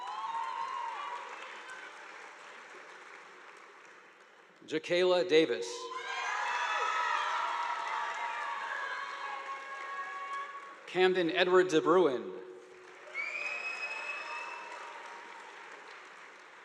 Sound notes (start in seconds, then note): 0.0 audience applauding; 5.8 students cheering; 5.9 audience applauding; 12.6 audience applauding